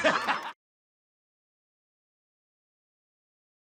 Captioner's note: crowd laughs